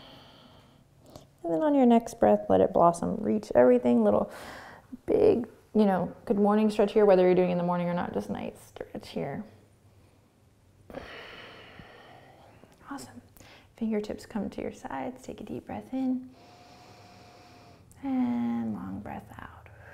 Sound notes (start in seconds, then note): 10.9 exhaling; 16.3 inhaling